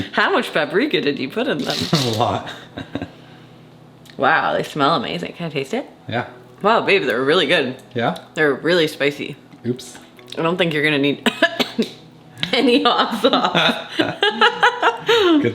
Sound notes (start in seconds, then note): 3.5 laughs; 11.2 coughs; 12.9 laughs